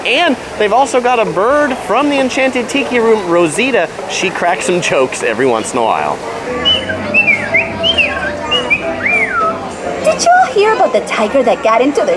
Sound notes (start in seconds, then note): 6.5 bird tweeting